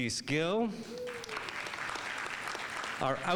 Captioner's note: audience applauding